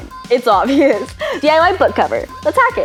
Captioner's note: laughs